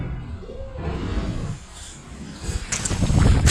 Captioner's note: crashing